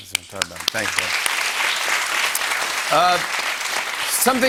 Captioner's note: applause